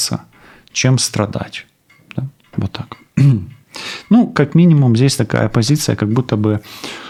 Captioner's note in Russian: откашливается